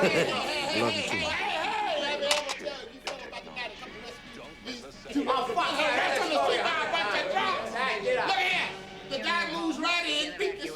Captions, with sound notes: I love you too, Mom. (men talking loudly) Look here, the guy moves right in,